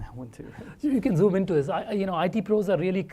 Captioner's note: laugh